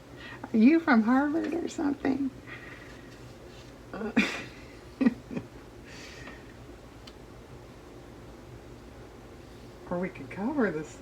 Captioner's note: laughs